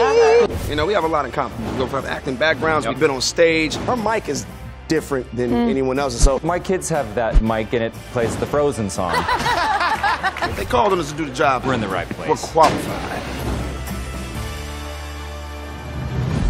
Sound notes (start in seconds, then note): 9.0 laughter